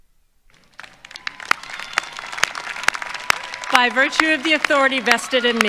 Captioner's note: applause